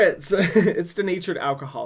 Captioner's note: laughs